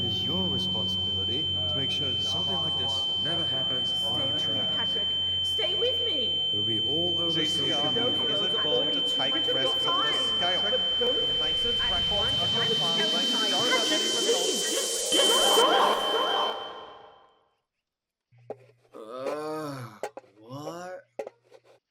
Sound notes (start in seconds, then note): 18.9 groans